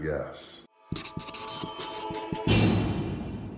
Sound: scratching; thudding

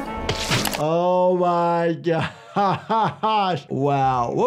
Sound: laughing

